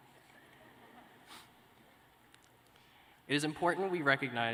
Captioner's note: laughter